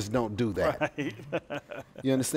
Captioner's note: laughs